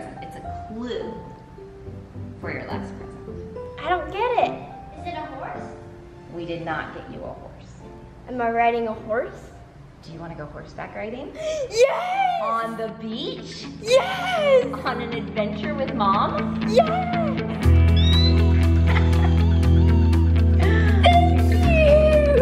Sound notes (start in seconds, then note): 18.7 laughs